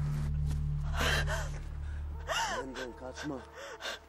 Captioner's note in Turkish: Ağlıyor